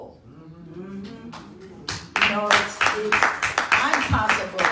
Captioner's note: audience clapping